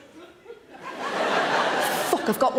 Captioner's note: audience laughs